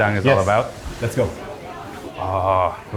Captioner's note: people chatter